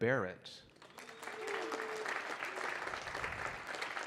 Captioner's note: audience clapping